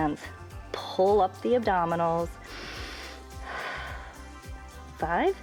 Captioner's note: inhales and exhales